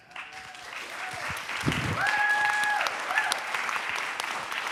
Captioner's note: applause